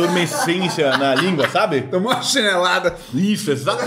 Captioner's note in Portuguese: risos